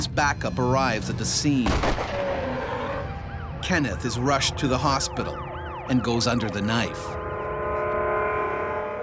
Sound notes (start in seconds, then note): 0.0 voiceover; 1.6 gunshot